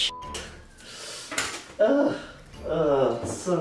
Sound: inhale

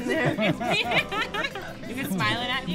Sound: laughter

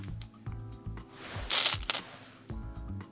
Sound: stones rattling

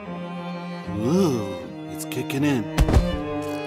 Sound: shudders; body thuds

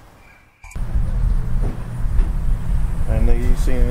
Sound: birds chirping

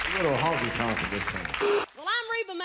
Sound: beeping TV static

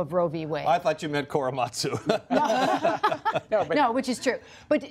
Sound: laughter

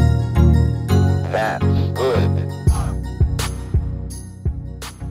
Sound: robotic Voice

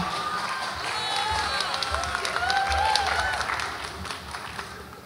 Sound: audience applauds and cheers

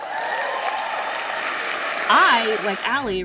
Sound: audience cheers

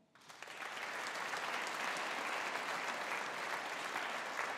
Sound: audience applauding

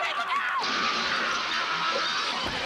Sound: screaming

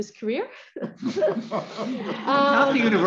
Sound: laughter

